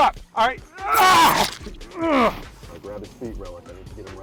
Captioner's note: person grunting